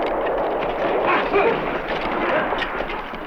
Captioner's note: non-english